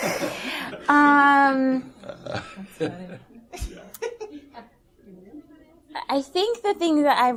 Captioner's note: laughter